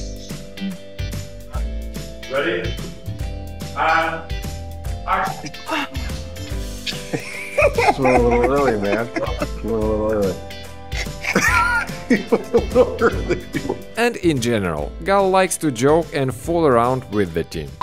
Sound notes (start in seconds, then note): 10.8 Gal laughs